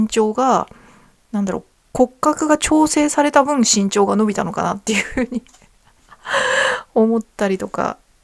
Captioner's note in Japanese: 息をのむ音